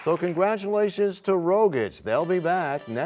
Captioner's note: applause